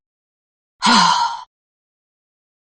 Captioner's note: sigh